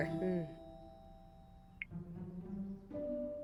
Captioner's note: phone Beeps